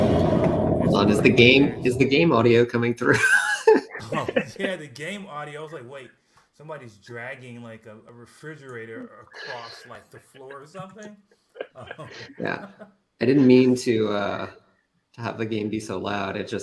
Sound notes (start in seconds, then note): 3.0 laughter; 11.0 laughter